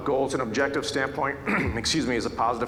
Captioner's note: clears throat